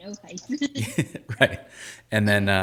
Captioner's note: laughing